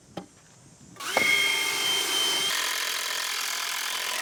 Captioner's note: drill whirling